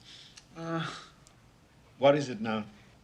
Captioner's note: groans